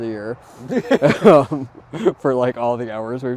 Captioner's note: both laughing